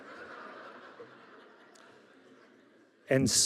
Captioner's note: audience laughing